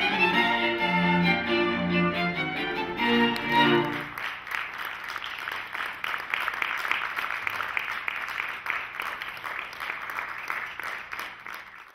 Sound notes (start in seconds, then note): 0.0 lively string music; 3.2 audience applauding